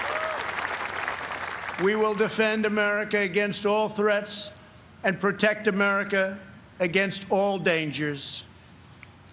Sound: applause

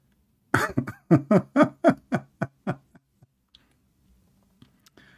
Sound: Ketawa

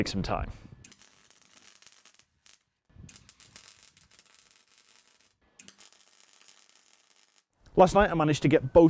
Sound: welding crackle

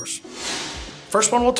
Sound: screen whooshing

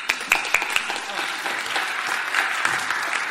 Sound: applause

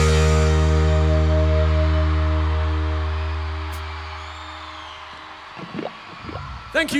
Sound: audience applause

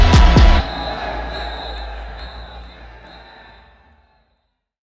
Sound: cheering, whistle blowing

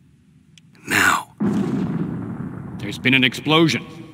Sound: distant explosion

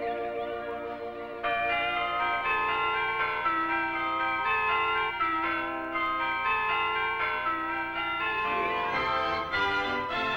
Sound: wedding Chimes

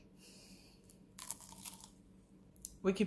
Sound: crunch

